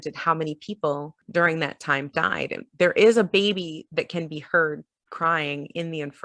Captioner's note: none